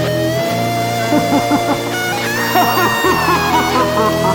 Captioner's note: laughs maniacally